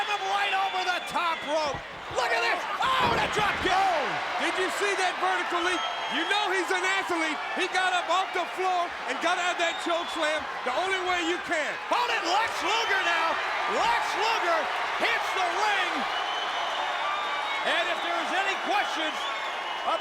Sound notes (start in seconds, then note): 3.9 crowd cheering; 16.5 crowd cheering